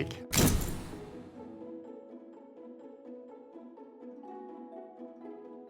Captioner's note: soft whimsical music; door closes